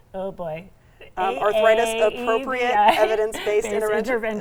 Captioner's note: chuckles